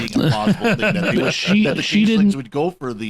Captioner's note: laughter